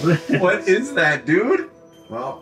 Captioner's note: laughs